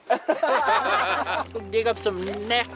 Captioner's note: laughs